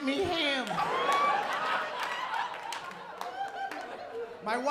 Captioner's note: laughter